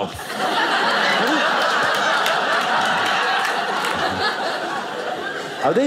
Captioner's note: audience laughing